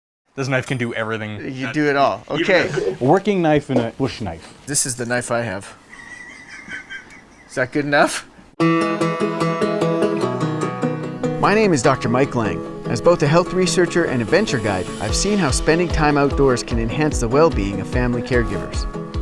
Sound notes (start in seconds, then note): 5.8 laughs; 8.6 upbeat guitar music